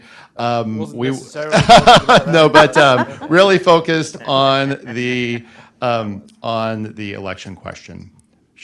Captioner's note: laughter